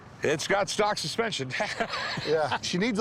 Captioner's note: laughs